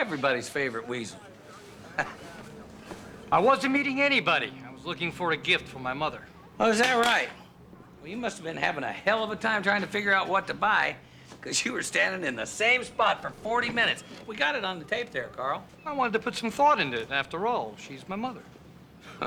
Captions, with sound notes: Everybody's favorite weasel. (chuckling) I wasn't meeting anybody. I was looking for a gift for my mother. Oh, is that right? Well, you must've been having a hell of a time trying to figure out what to buy, 'cause you were standing in the same spot for 40 minutes. We got it on the tape there, Karl. I wanted to put some thought into it. After all, she's my mother.